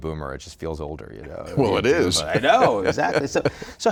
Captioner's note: laughing